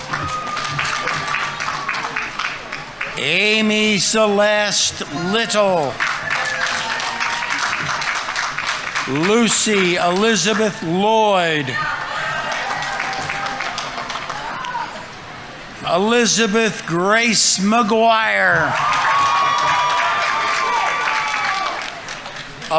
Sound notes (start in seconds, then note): 0.0 audience applauding; 0.3 audience members cheering; 6.3 audience applauding; 6.3 audience members cheering; 13.2 audience applauding; 17.7 audience members cheering; 18.4 audience applauding